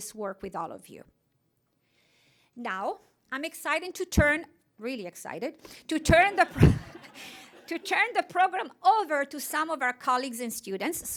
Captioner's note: laughter